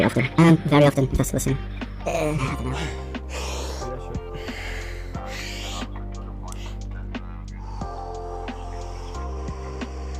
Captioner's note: doing the reset breath/physiological sigh to ease anxiety